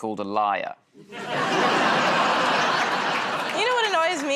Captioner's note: laughter